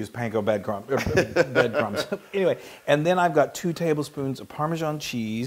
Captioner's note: laugh